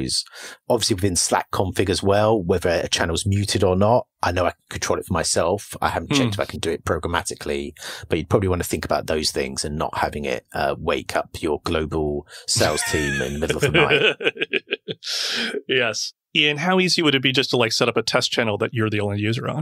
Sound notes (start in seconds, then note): 15.5 laughs